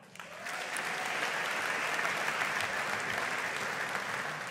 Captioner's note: audience applauding